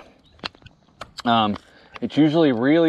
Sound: rubber band snaps

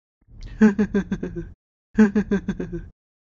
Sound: laughs

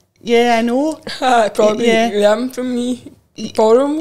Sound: laughs

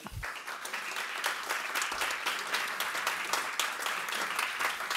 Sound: audience applauds

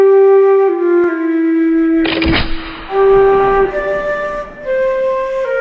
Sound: sad flute music; musket shot; sad flute music

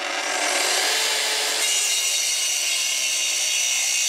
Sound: electrical buzzing, screeching sawing noise

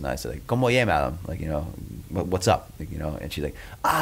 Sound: asks question in Spanish

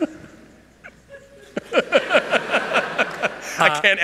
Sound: laughter

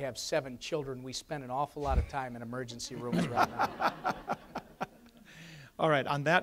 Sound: audience laughs

